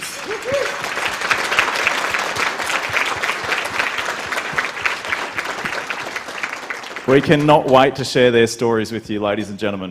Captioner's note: applause